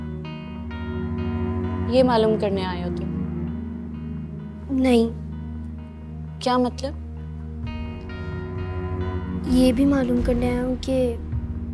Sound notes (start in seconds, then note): none